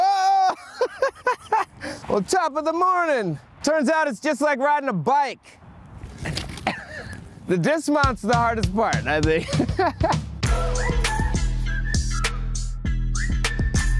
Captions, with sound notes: Well, top of the morning. Turns out it's just like riding a bike. The dismount's the hardest part, I think. (laughs) (upbeat music)